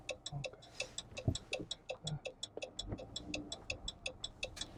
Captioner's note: blinker clicking